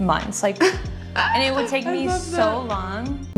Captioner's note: laughs